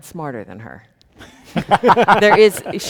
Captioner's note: people laughing